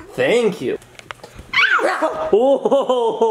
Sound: screeches; laughing

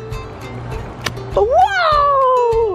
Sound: kissing

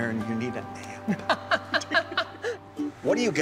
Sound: both laughing

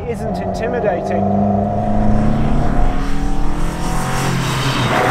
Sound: engine revving

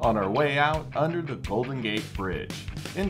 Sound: none

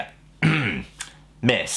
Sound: clears throat

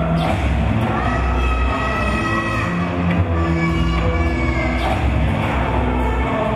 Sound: yelling in foreign language

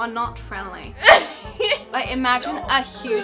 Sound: laughing

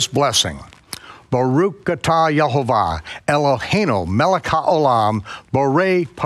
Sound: speaking in foreign language

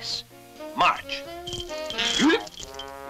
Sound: exclaims; chuckles

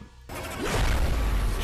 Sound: text booms

